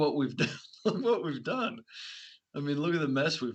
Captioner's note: laughing